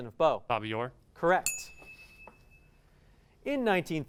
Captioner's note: ding